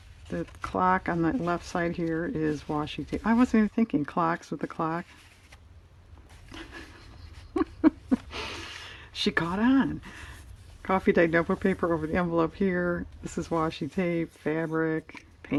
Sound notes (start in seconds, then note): 6.5 laughs